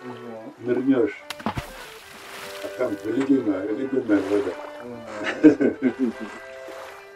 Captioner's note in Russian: Смеется